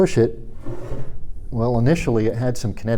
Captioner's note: block scraping